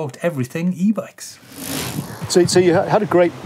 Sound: gear sound

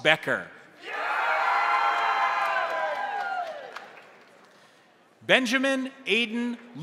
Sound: crowd cheering; crowd applauding

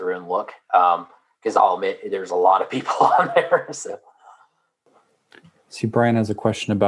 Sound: laugh

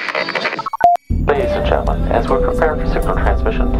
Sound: radio voice 1

